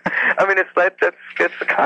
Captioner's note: laughs